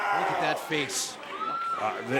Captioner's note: fans chanting